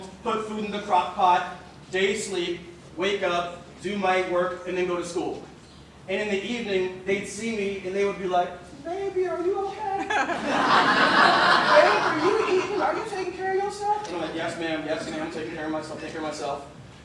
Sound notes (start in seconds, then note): 8.4 imitating women; 9.9 laughter